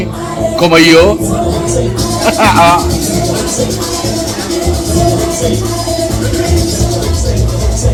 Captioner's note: laughs